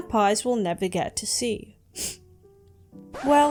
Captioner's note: sniffs